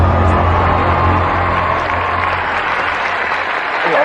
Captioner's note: audience gasping